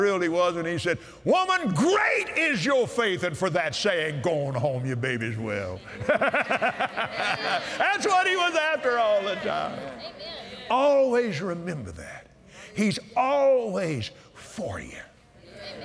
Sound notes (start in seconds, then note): 5.8 laughs; 8.6 audience "Amens"